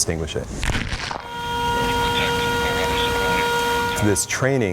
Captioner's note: siren wailing